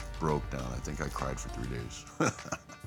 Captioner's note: laugh